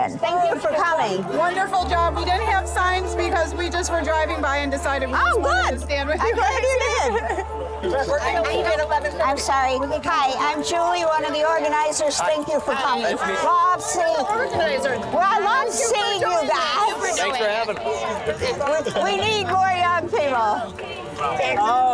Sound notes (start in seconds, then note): 8.1 people chattering